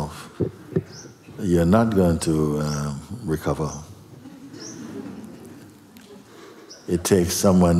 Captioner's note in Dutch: gelach